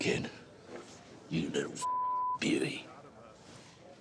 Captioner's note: beep